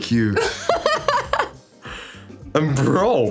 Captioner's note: laughs